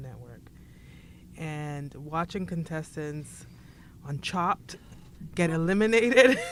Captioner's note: laughs